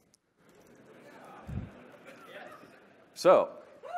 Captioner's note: laughter